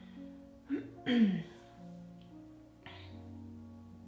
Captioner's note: clears throat